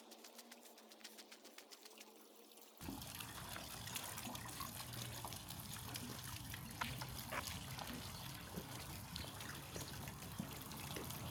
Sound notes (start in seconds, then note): 3.2 sound of fountain